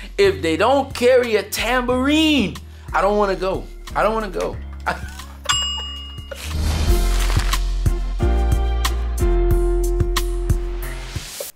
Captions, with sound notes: If they don't carry a tambourine, I don't want to go. I don't wanna go. (bell sound)